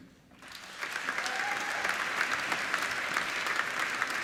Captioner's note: applauding